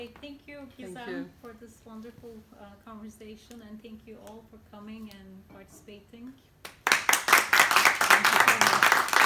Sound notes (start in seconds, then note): 6.6 applause